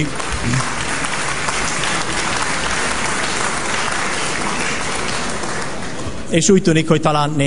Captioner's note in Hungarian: Taps az MSZP soraiban